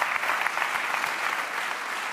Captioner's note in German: Applaus